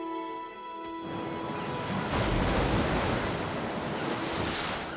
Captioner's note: waves rumbling